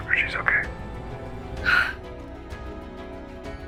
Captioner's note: June exhales